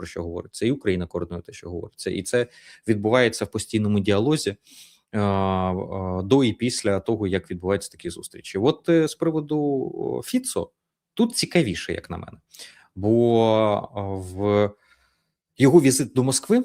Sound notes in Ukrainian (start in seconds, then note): 4.9 сопіння